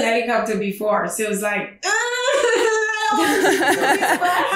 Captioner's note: winces